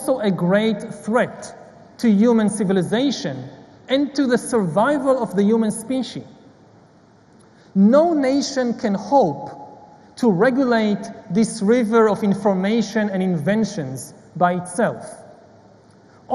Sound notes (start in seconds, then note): none